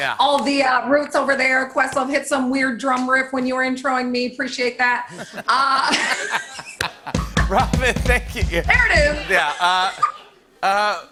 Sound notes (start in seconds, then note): 5.1 laughter